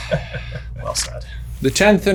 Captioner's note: chuckles